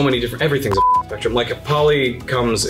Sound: beeps

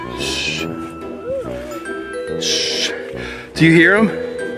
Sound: zombies Moaning

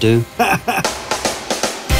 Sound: upbeat music; laughter

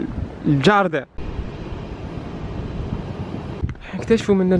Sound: wind sound

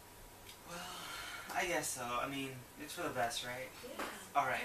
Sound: sigh

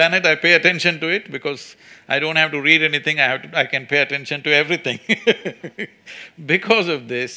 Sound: laughs

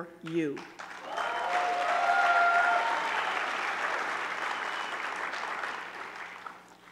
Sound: audience clapping; audience cheering

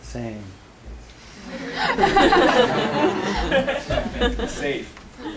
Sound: laughter

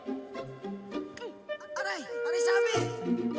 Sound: man's voice

